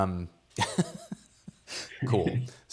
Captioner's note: laughs